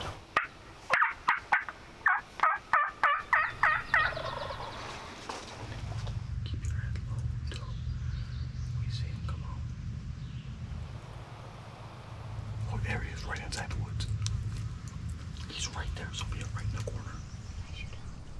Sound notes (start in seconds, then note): 0.1 turkey call chirping; 4.7 turkey gobbling